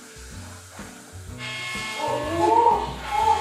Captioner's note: buzz